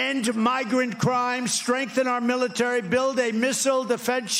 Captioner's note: applause